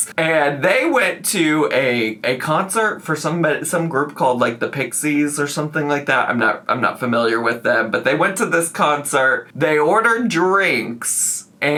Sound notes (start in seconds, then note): none